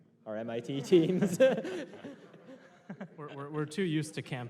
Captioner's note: laughter